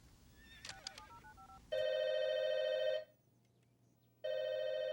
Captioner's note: speed dial beeping; telephone ringing